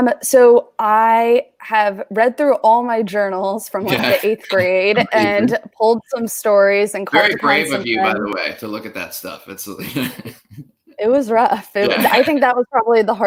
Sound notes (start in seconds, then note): 9.2 chuckles